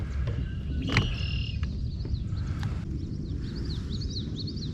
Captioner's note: birds chirping